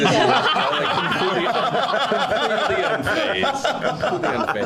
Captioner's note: laughing